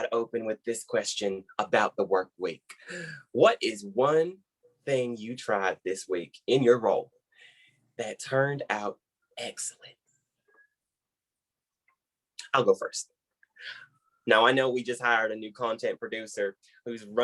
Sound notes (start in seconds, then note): 9.9 brief silence